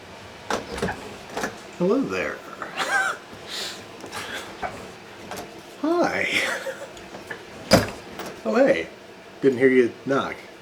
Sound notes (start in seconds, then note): 0.4 door opening; 3.6 laughs; 6.8 laughs